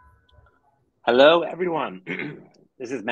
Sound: clears throat

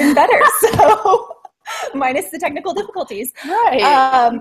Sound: laughs

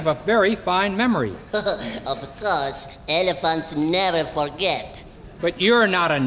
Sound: laughs

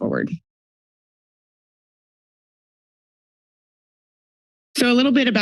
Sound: silence

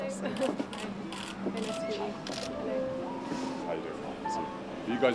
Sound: chuckles

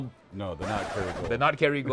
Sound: record scratching

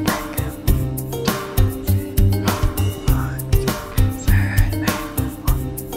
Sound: whispering

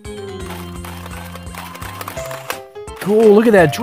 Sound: drill spins

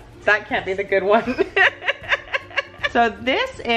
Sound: laughing

